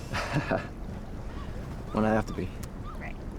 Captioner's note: Miguel laughs